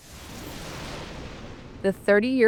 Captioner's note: thunder rumbling